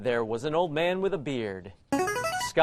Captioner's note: player buzzer